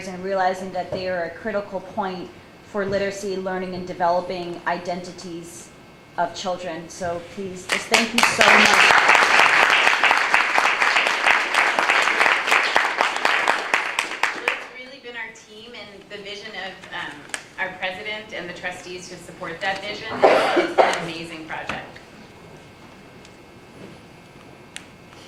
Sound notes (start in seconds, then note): 9.7 applause